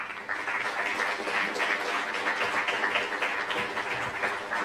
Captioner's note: applause